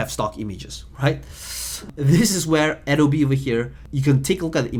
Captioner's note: hissing